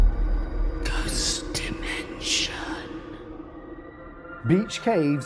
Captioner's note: voiceover